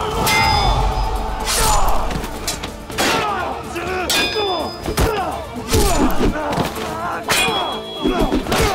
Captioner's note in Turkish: Dövüş sesleri